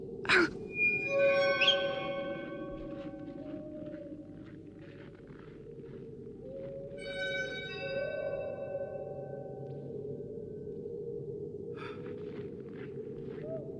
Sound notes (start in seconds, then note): 0.3 Mole gasps; 0.5 whistling and howling continue